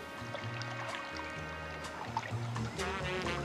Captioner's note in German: Plätschern, ruhige Musik